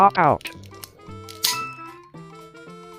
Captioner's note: coin sound; pop!